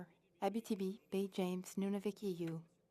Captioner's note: speaking FRENCH